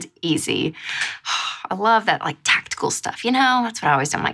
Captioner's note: sighs